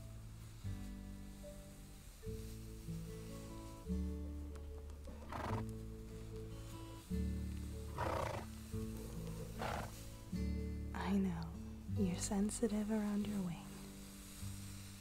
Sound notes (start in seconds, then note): 5.0 Egil snorts; 14.8 wing flutter, Ingrid blows a huff of breath